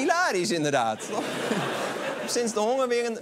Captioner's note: laughter